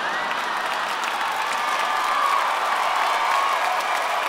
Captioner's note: audience cheers